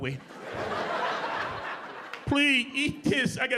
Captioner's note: audience laughing